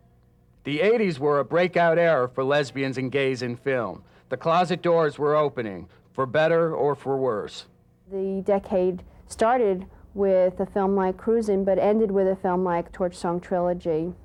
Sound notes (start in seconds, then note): none